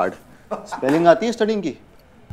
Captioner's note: Prathmesh laughs